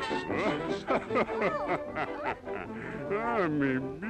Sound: evil Laugh

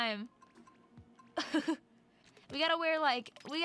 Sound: laughing

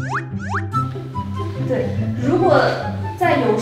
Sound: whispering

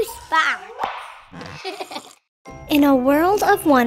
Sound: person giggles

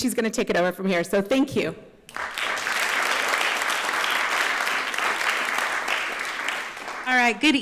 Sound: applause

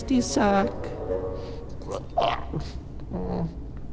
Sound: gags

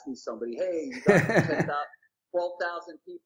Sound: laughing drowns out speaker

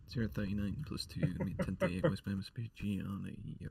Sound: laughs

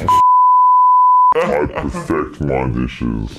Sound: beeping

